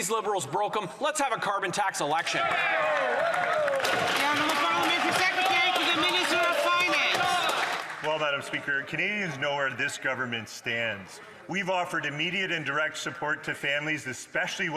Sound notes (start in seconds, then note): 6.5 some Applause